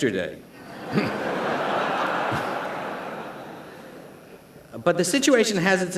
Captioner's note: laughter